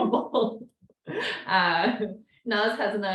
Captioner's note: laughs